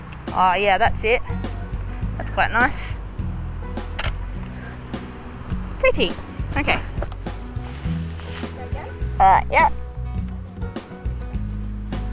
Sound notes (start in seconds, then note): 4.0 camera shutters